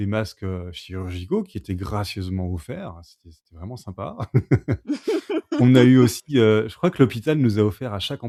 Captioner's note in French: rires